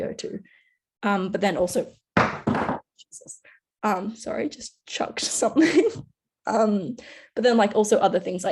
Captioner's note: bang